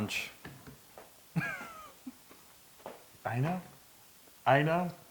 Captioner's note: laugh